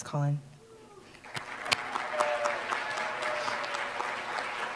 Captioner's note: applause